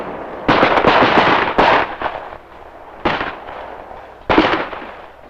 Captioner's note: bomb blasts; gun bangs